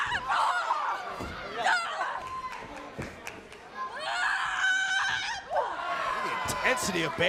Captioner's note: screaming